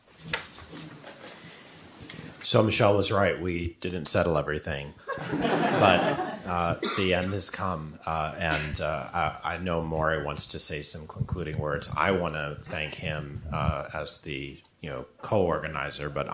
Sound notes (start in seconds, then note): 5.1 audience laughing